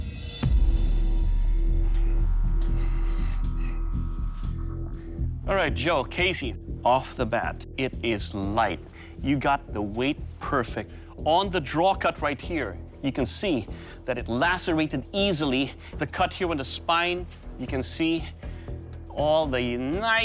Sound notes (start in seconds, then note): none